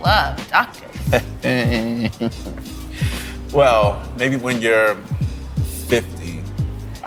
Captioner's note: laughing